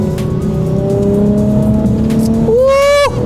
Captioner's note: engine revving